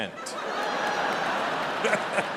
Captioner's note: audience laughs; laughs